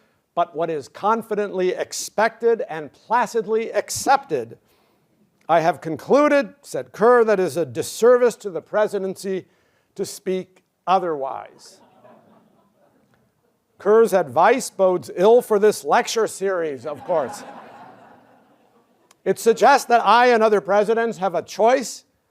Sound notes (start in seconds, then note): 11.7 laughter